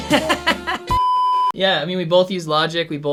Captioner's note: saxophone music; laughs